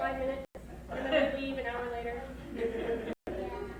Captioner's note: crowd laughs